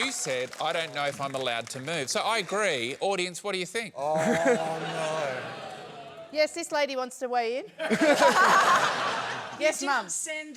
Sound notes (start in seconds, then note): 7.8 laughter